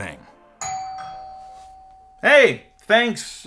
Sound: doorbell rings

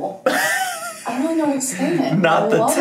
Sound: laughing

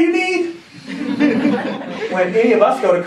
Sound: laughing

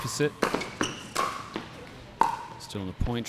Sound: ball bouncing

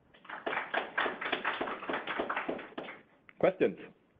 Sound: students applauding

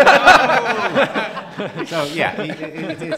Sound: laughing

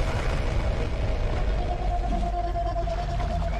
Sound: shrieking

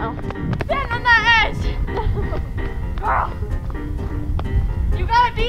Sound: laughing

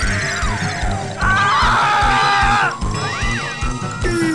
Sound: screaming

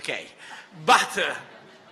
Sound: laughter

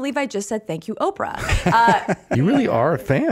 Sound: Rainn laughing

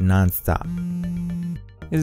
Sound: phone vibrates

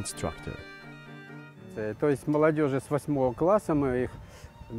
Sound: RUSSIAN with English subtitles

